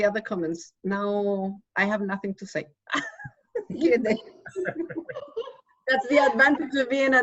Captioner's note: laughs